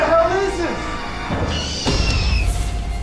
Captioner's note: creature shrieks